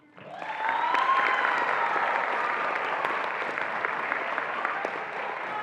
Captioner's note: attendees applauding and cheering